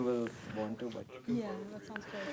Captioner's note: background chatter